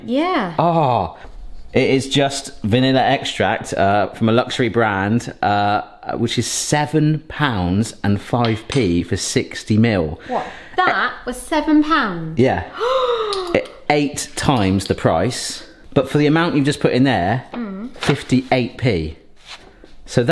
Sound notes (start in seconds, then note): 12.7 gasps